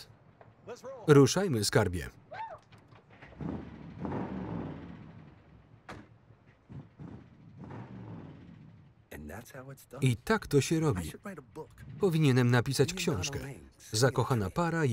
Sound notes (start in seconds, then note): 3.3 engine revving